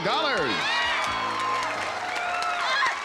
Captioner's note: cheering